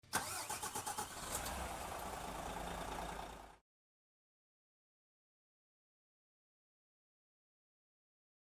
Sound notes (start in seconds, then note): 0.0 engine starting